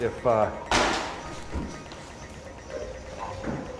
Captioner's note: book slams